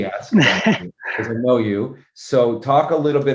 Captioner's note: laugh